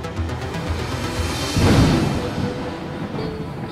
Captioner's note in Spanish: trueno